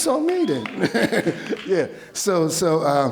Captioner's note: laughs